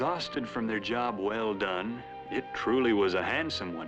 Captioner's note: fly buzzing